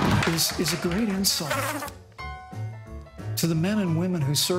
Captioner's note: fly buzzing